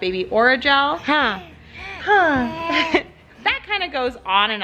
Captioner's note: laughs